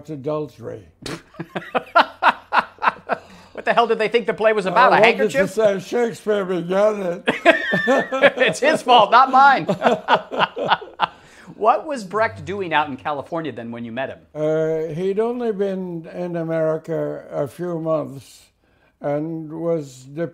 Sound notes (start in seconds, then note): 1.1 laughs; 7.2 both laugh